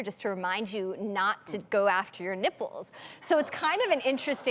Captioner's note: audience laughing